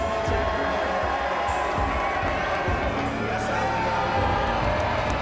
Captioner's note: crowd cheers; dramatic music